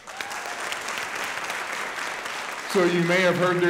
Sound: audience applauding

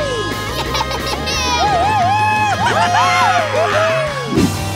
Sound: cheering

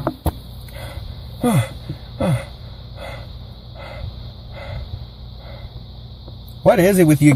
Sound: panting

